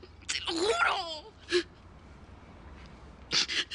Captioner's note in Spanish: Sollozos